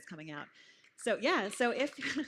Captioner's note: applause